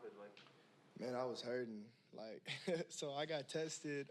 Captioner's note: chuckles